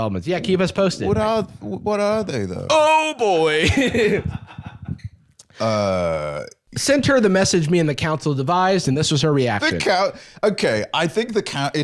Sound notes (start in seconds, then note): 3.3 laughs